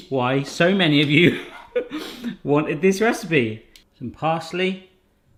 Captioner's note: laughing